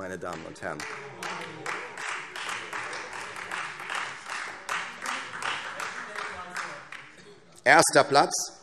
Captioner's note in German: Beifall